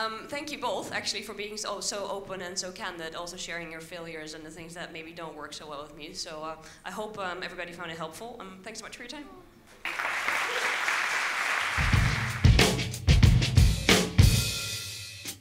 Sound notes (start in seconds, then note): 9.8 audience applauds; 11.4 upbeat instrumental music